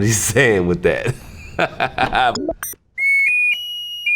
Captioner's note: laughs; melodica plays